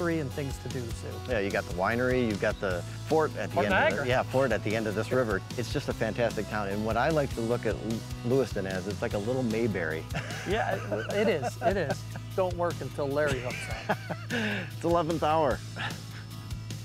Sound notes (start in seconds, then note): 9.6 laughs; 16.5 upbeat instrumental music